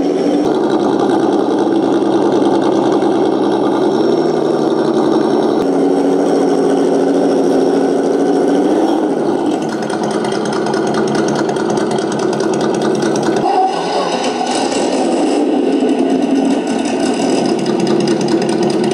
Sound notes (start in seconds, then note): 0.2 engine revving up; 7.5 engine speeding; 10.4 engine throttling